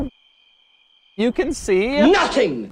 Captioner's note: crickets chirping